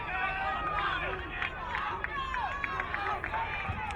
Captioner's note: crowd cheering